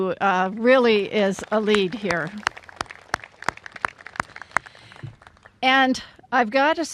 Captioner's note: applause